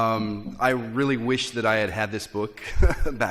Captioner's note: laugh